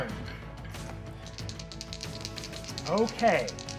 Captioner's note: dice rolling